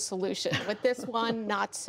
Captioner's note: laughter